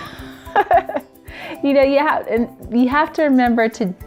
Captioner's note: laughs